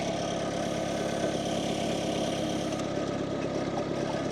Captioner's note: machinery rumbles